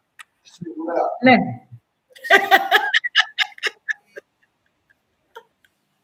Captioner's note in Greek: γέλια